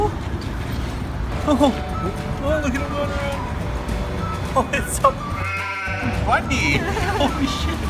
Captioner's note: excited sounds; sheep noise; giggling